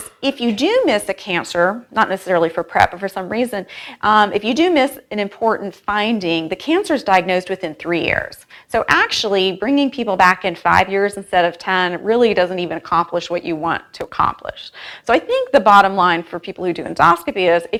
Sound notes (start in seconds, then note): none